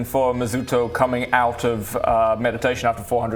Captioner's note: none